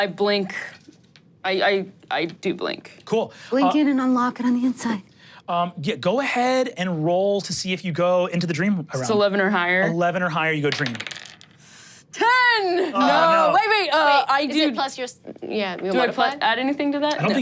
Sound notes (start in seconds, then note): 10.7 dice rolling